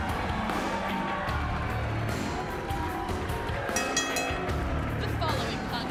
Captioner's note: crowd cheering; bell ringing